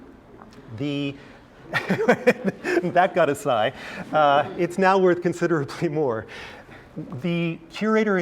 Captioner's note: laugh